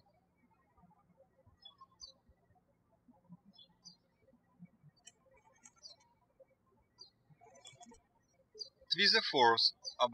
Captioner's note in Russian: птички щебечут